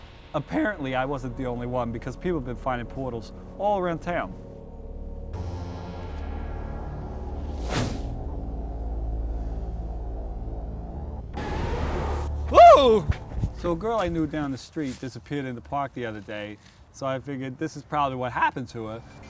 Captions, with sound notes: Apparently I wasn't the only one because people have been finding portals all around town. *Scream* So a girl I knew down the street disappeared in the park the other day. So I figured this is probably what happened to her.